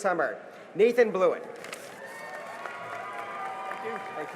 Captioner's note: cheering and applause